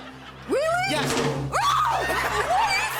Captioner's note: laughter